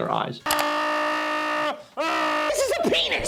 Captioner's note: grunting